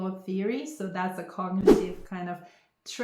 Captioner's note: air whooshing